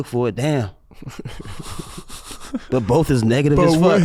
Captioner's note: brothers chuckle